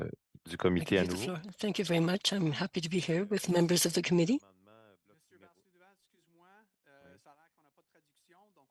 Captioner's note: speaking French